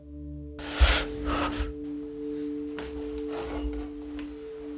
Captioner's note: breathing heavily